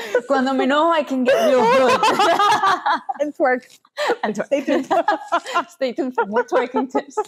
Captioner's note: laughs